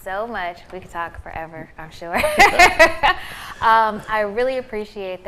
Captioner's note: laughing